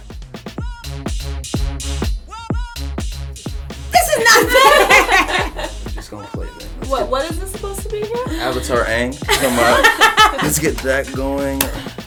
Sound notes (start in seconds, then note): 4.0 laughter